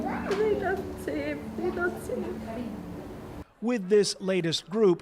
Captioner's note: crying